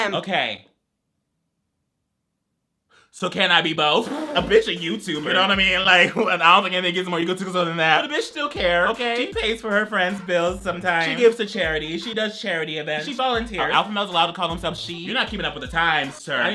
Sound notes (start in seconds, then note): 6.5 mumbles words playfully